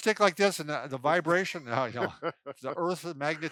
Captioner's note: laughs